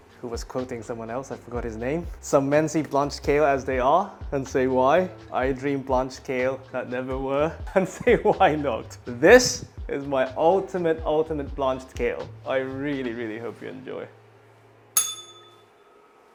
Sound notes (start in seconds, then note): 14.9 bell rings